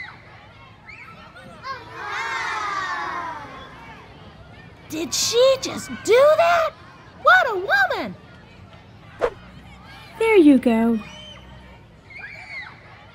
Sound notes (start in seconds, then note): 1.8 crowd gasps; 9.2 whoosh